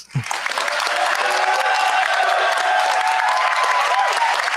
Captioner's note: cheers, applause